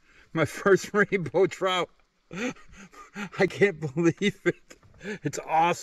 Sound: laughs

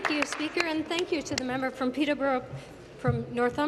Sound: applause

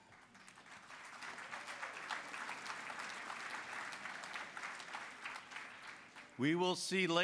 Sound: applause

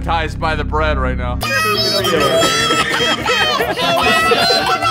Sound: all laughing

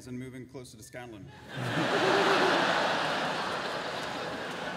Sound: laughter

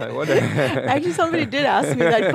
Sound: laughs

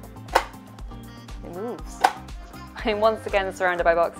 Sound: plastic clicking

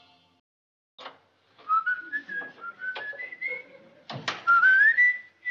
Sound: whistling and then sniffing

